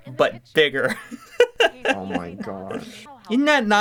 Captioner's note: laughs in weird design